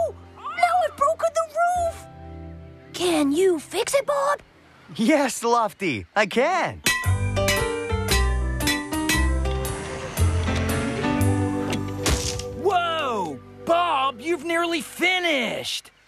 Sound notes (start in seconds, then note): 8.0 hammer Clanging